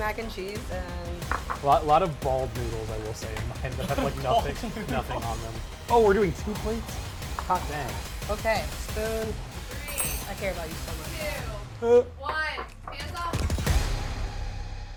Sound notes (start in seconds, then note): 3.7 laughs; 9.8 spoon clangs